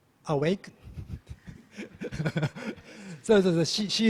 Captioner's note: laughs